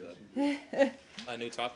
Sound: laughter

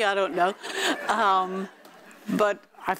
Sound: audience laughing

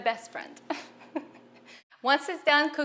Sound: chuckling

